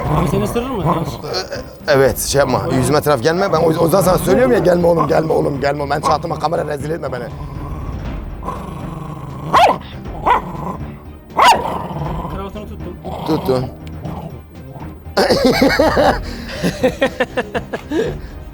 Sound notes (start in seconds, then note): 0.0 growling sound and tension music; 9.5 barking sounds and tension music; 15.2 laughs